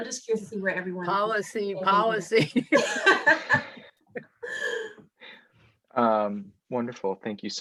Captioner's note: chuckles